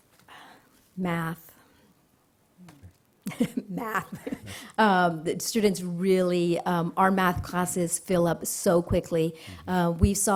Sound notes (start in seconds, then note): 3.2 laughter